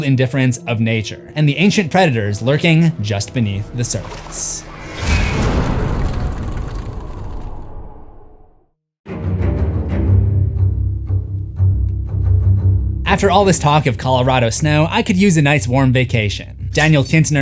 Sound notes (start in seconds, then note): 3.9 impact